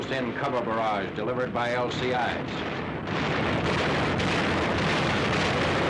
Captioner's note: artillery firing